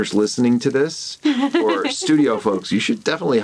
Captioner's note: laughs